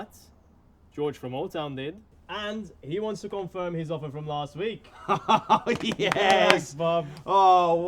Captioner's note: applause